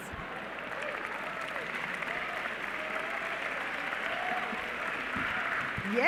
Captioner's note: cheering